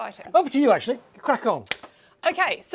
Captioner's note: claps